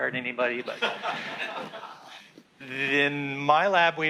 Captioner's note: class laughs